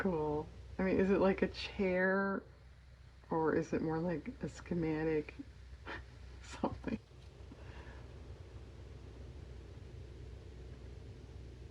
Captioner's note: laughs